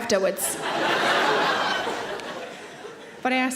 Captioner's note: audience laughing